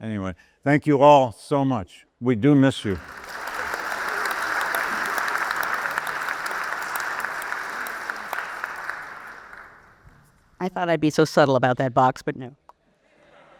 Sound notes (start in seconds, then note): 2.7 audience applauds